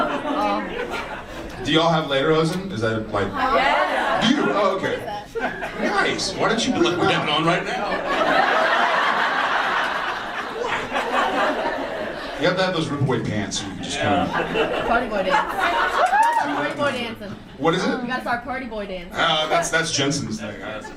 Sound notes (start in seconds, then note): 8.0 audience laughs; 13.8 audience laughs and cheers